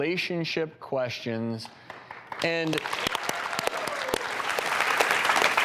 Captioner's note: audience applauding